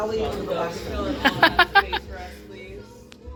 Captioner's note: laughs, merrily